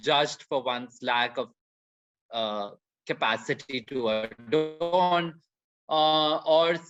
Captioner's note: audio breaks